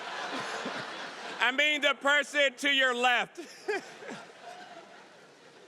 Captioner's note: audience laughing; laughs